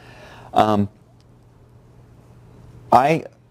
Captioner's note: pause